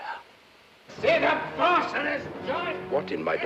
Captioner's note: man yelling